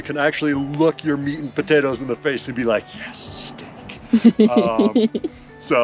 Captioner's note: laughing